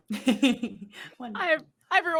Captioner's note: laughs